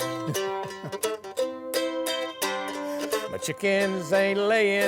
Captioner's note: laughing; guitar playing